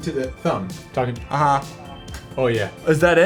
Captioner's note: phone echoes AAAAH